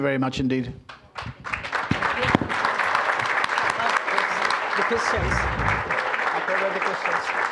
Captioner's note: Scottish accent; applause